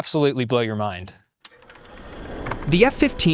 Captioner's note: film clicks and whirs